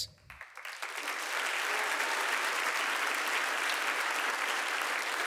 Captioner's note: audience applauding